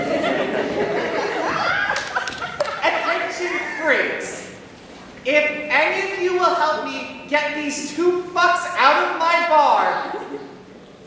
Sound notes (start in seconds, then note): 0.0 laughter; 1.9 hands clap